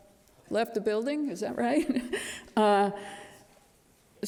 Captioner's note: chuckles